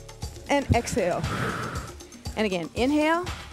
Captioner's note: breath hisses